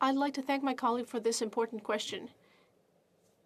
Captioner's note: speaking French